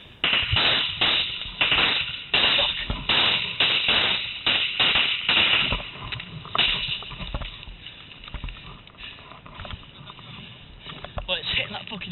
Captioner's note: gunfire